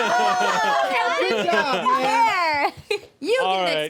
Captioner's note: everyone laughs and cheers